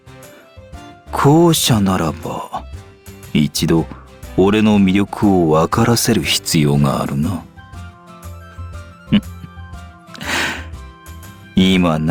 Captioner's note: chuckling